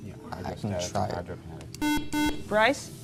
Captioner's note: beeping